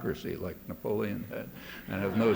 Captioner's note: laughter